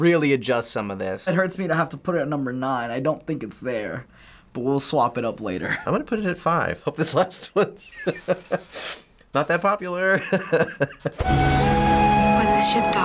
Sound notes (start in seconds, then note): 10.4 laughs